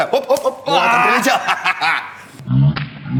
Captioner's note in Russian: Звук пощечины